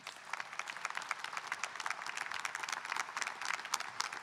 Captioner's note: audience applauding